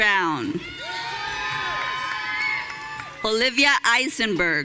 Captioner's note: audience cheering